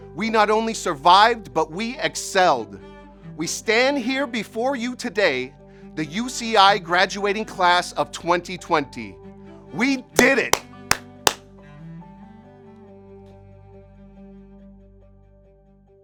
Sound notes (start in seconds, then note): 10.1 clapping